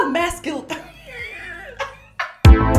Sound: laughs

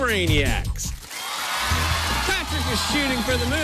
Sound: cheers and applause

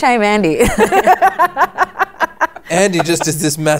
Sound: laughter

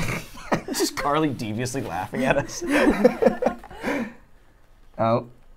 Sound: laughs; laughs

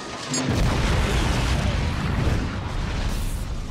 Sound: explosion

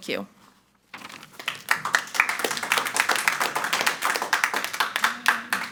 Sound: everyone applauding

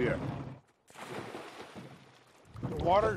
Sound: water splashes

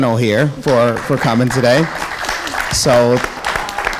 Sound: audience applauding

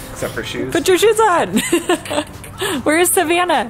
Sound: laughs

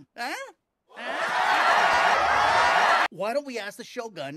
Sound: crowd cheers, then un-cheers

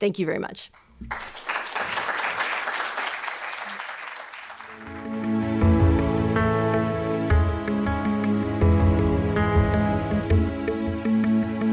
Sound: applause

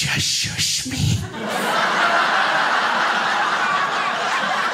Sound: crowd laughs

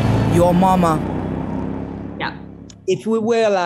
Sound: engine rumbling

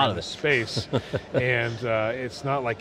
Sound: laughs

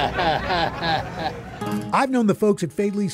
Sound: chuckles

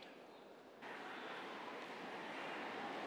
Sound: cheers and applause

